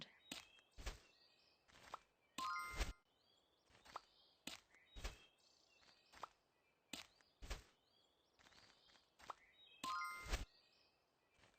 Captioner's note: bird chirping sound effects